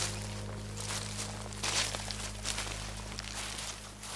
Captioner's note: footsteps crunch